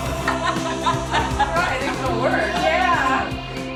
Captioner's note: they laugh